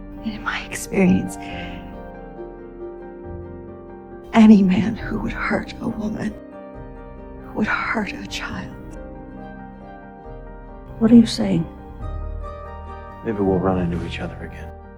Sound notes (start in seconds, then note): 11.2 voiceover